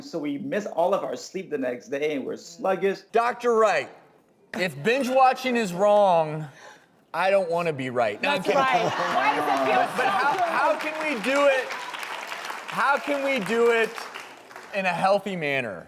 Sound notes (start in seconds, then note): 8.2 audience laughing; 8.6 clapping